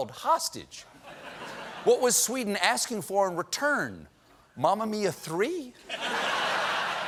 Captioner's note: laughter